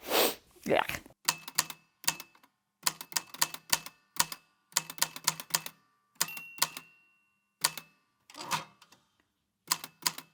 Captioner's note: sniff; the typewriter clicks and clacks away, with dings here and there